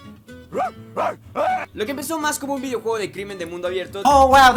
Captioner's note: Spanish